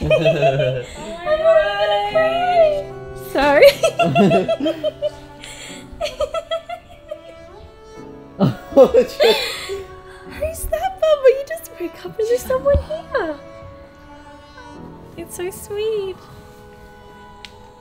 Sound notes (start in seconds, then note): 0.0 laughing; 3.6 laughing